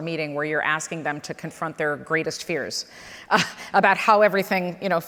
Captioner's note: chuckles